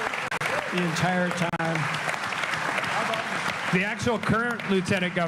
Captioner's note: applause